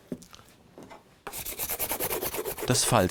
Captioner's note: scratching noises